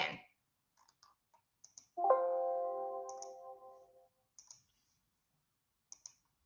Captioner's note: silence